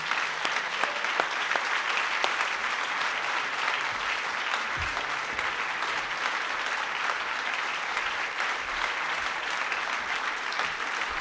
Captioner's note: applause